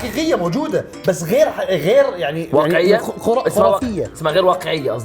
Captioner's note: laughs